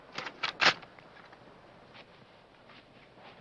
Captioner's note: speaking foreign language; gun clicking